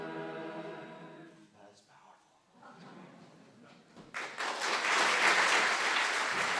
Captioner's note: applause